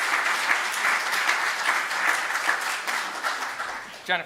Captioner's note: applause